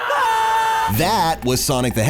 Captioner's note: screams